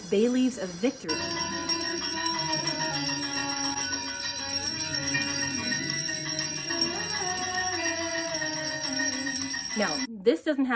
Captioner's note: bells ringing; chanting: Let God arise!